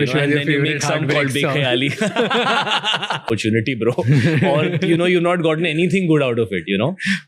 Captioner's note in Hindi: हंसी